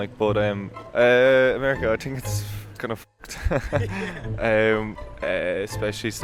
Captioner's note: laughs